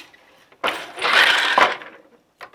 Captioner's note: noise of shuttle moving